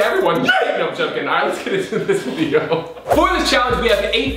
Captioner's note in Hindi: हंसते हुए; बास भारी इलेक्ट्रॉनिक संगीत